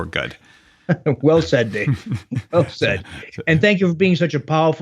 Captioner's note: laughs